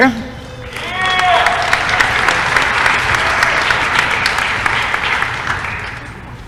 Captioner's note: applause & cheering